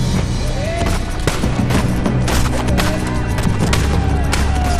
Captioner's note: gunshots banging